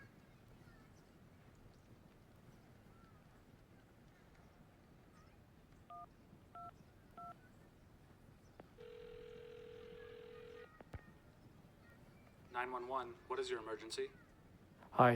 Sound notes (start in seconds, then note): 5.9 phone handset beeping; 8.8 phone ringing